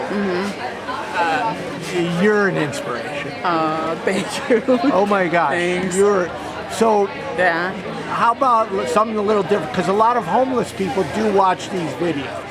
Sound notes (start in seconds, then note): 3.8 chuckles